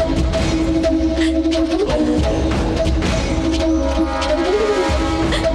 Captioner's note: Sobbing